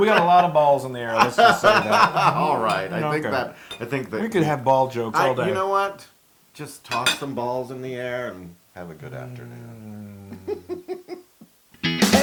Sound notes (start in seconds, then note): 1.1 laugh; 10.0 laugh